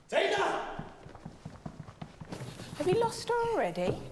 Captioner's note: footsteps plodding